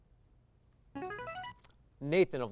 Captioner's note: signaling device tone